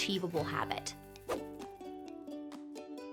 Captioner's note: air whooshing; lively music